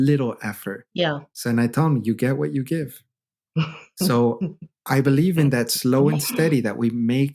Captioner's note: laughter